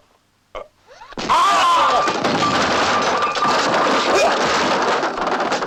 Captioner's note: grunting; explosion; josé yells